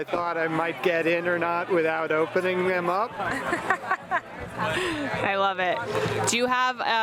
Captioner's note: laughs